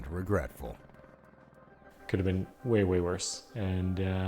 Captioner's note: voiceover